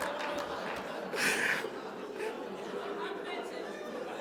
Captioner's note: audience applauding; laughs